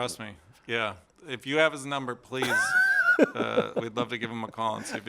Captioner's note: laughter